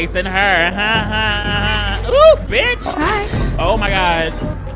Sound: laughs

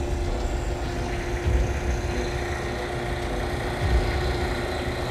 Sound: dramatic music; loader engine whirring

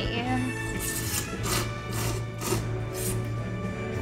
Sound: slurping

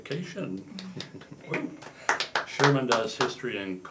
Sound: rangers applauding

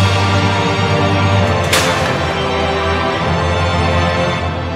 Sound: metal clashes

